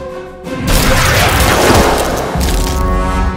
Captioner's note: zap